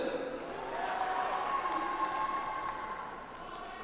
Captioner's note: audience applauds